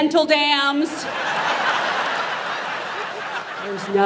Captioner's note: audience laughs